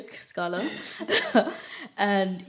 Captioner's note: laughter